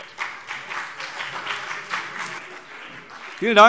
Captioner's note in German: Beifall BÜNDNIS 90/DIE GRÜNEN und vereinzelt CDU